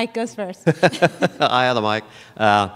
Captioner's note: laughter